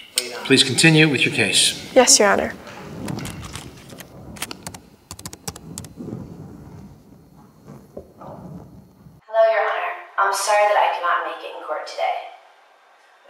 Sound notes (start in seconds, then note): 5.1 keyboard clicking